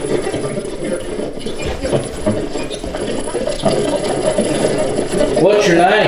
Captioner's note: static